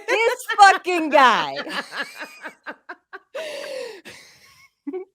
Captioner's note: laughing